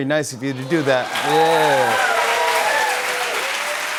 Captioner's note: cheers and applause